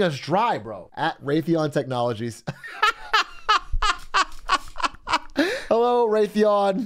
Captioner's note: laughs